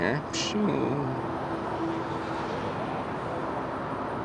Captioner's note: swooping sound